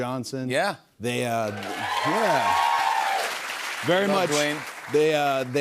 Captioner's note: cheers and applause